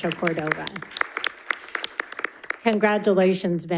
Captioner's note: all applauding